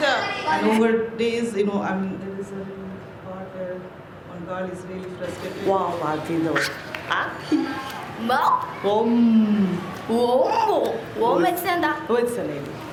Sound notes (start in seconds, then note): 5.7 non-english speech